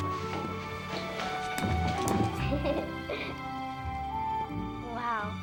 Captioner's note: giggles